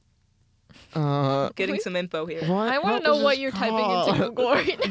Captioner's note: laughing